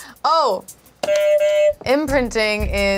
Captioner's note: buzzer honks